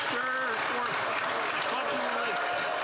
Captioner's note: some Applause